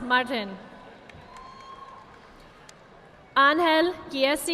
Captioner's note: audience applauding